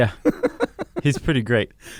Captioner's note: laughs